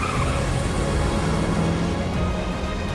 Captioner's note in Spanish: Chirrido de llantas